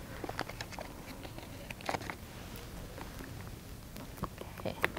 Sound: packaging rustles

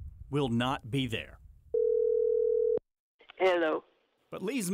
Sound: phone ringing

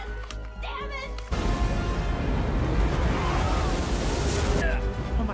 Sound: wave crashes

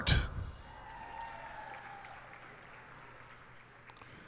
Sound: cheers and applause

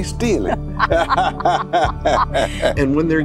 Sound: laughing hysterically

